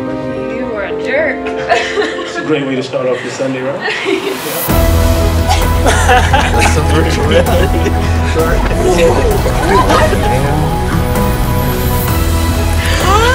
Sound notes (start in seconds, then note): 4.9 laughing